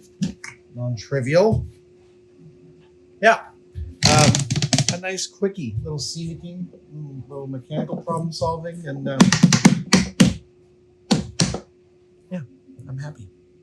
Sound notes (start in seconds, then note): 7.7 rapping on box